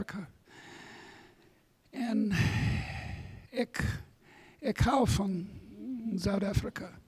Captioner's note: speaks a foreign language